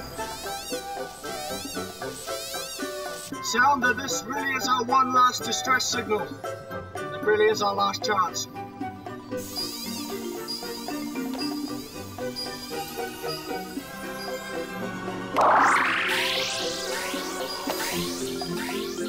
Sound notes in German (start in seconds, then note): 0.0 schrilles Jammern; 9.4 pulsierendes Läuten; 9.4 schrilles Jammern; 15.3 Gerät schrillt; 15.4 Signal ertönt